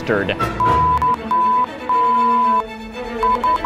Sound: beeping

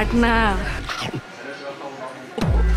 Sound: chomp

